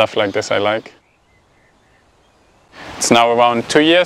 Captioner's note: birds chirping